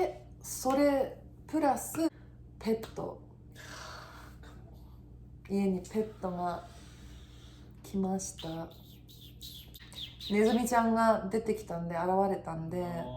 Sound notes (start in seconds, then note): 8.3 making mouse sounds